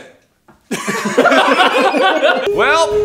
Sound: everyone burst into laughter

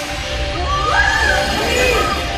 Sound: witch screams

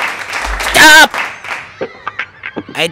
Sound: claps abruptly end

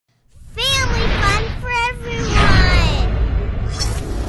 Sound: voiceover

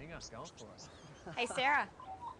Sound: birds chirping

